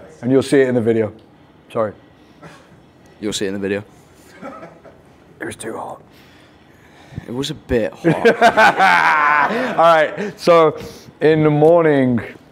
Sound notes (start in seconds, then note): 8.0 laughing